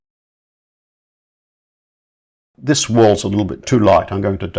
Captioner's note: silence